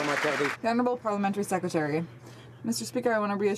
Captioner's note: some Applause